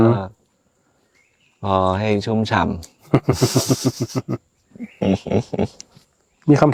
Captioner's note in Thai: เสียงหัวเราะ